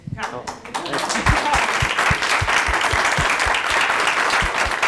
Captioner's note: applause